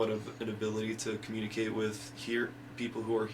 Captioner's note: none